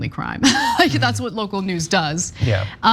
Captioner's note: laugh